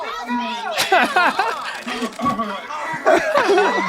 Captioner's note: Danny laughs softly; person exclaims softly; all laughing softly